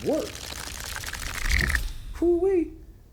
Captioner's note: pages rattle